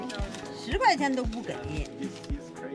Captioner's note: speaking foreign language